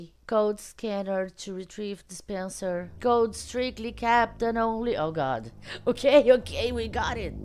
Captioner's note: laughs